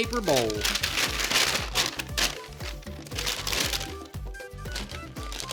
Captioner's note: paper crinkling